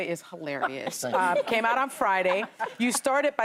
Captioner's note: laughter